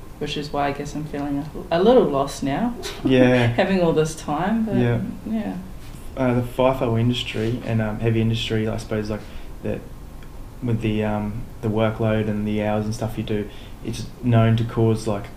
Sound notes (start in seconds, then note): 2.8 laughter